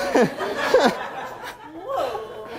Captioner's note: laughter